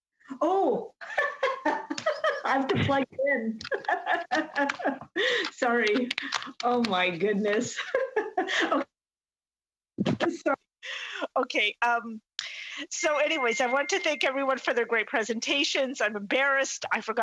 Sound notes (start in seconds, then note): 7.6 laughter